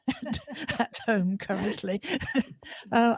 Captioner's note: laughter